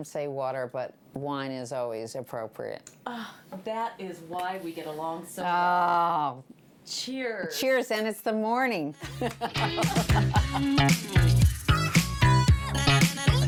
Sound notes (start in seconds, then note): 9.0 laughing; 9.4 upbeat music plays